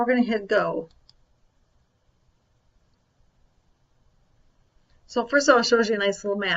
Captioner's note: computer mouse clicks